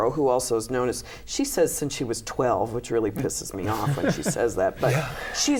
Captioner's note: laughter